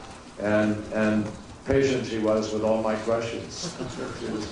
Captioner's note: laughter